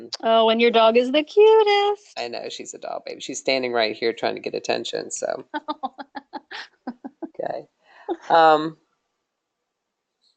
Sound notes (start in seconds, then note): 6.5 laughing